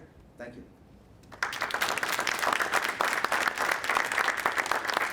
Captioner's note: audience applauding